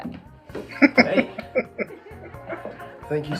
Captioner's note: laughing